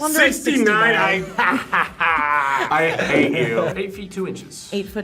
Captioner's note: laughs